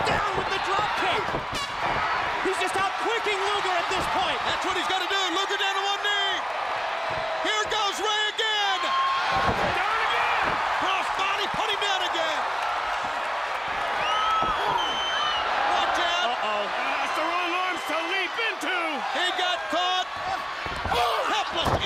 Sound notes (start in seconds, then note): 0.2 crowd cheering; 4.2 crowd cheering; 9.3 crowd cheering; 14.4 crowd chatter; 15.6 crowd cheering